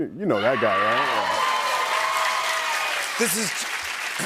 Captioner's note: cheers and applause